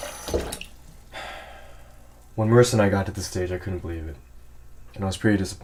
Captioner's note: sigh